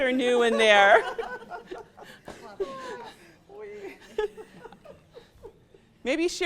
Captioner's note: laughter